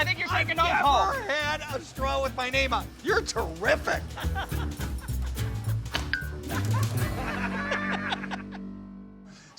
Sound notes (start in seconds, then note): 4.0 laughs; 4.2 whimsical upbeat music; 5.8 straw pings; 6.5 everyone laughing